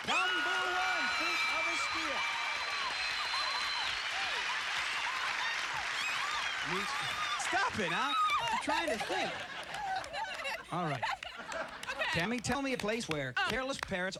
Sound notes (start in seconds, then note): 2.9 cheers and applause; 5.0 screaming